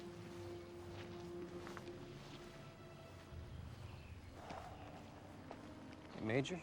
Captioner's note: footstep